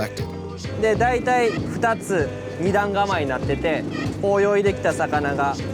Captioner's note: speaking Japanese